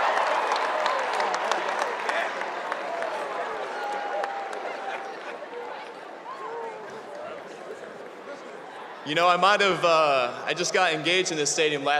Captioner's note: cheers and applause